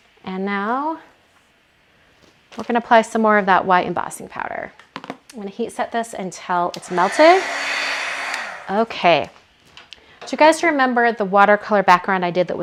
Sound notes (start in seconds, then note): 6.7 heat gun whirring